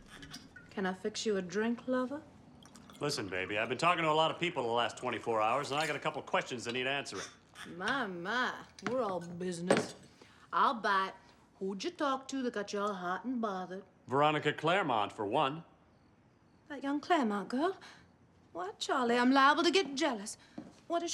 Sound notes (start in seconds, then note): 2.5 liquid pouring